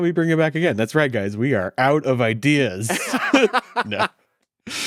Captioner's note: laughs